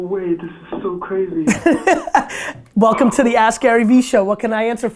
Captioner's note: laughs